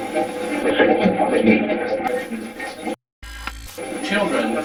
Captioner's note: static playback transmitting; static fizzing